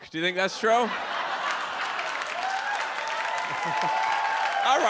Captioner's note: audience laughs; audience cheers